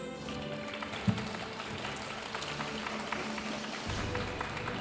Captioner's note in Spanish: aplausos de la audiencia